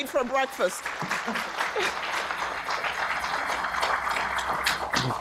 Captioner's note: audience applause